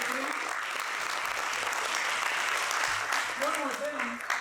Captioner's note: applause